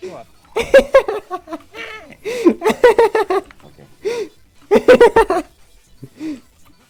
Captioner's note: laughs